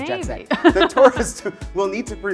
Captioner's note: laughing